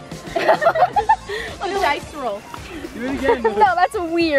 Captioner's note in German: lacht